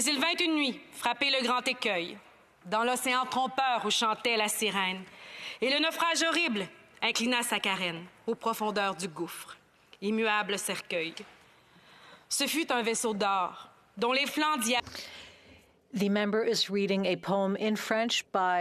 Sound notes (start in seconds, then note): 12.5 speaking French